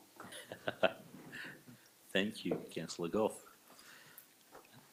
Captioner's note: chuckles